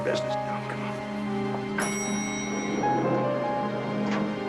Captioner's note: elevator bell dings